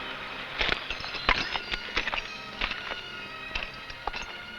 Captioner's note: spurs rattling